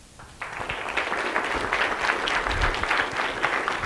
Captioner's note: applause